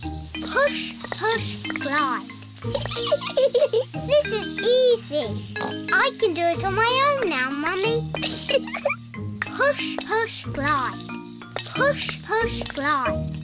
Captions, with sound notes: Push, push, glide. (GIGGLES) This is easy! (SNORTS) I can do it on my own now, Mummy. (GIGGLES) Push, push, glide. Push, push, glide.